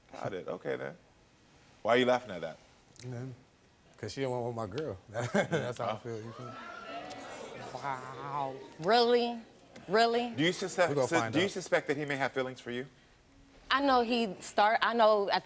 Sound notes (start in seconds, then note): 5.2 chuckles; 5.9 audience exclaims